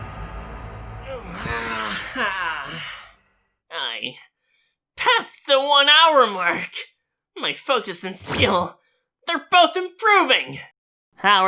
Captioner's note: exhale